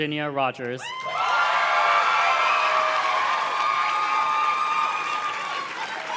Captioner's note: audience cheers and claps